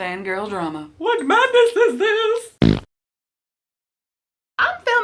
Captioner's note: fart